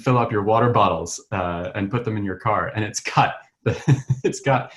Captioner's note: chuckles